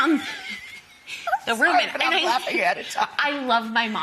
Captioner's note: laughing